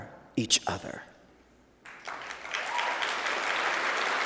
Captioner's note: applause